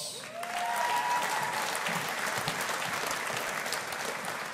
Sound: audience applauding

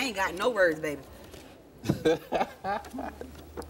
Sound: laughs

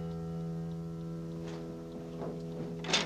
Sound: clattering

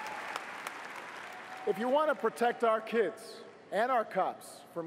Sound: cheers & applause

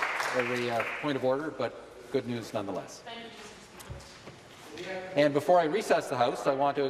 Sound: some Applause

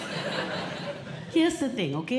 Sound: audience Laughing

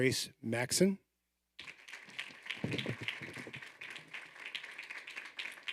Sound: audience applauding

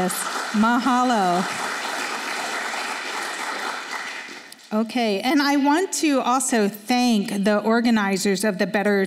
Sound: applause

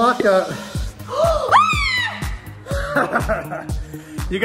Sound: screams

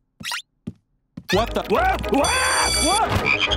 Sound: ribbiting, screaming; screaming

